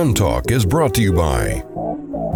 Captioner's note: voiceover